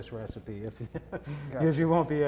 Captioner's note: laughing